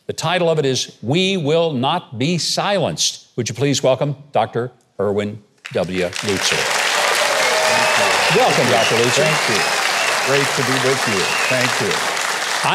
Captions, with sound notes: The title of it is, "We Will Not Be Silenced." Would you please welcome Dr. Erwin W. Lutzer. - Thank you, thank you. - Welcome, Dr. Lutzer. (audience applauding) (audience cheering) - Great to be with you, thank you.